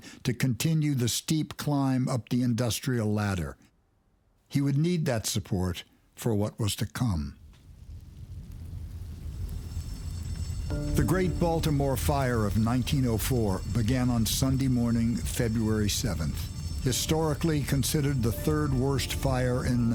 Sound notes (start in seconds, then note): 9.1 alarm blares